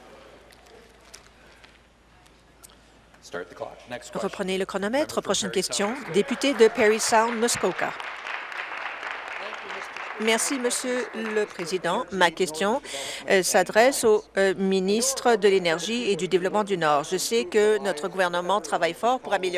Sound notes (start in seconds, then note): 9.6 applause